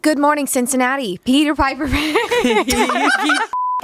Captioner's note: laughs; everyone laughs